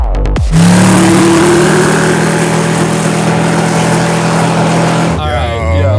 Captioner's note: engine revving